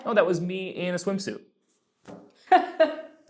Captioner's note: laughs